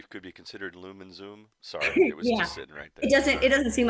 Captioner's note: laughs